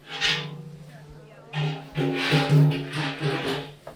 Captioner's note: steel chair clanking